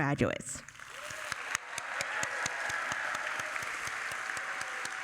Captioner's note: audience applauding